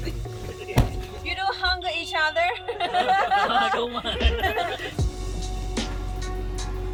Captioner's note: laugh